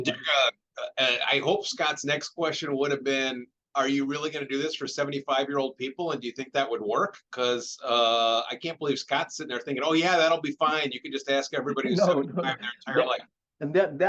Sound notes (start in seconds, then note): 11.6 chuckles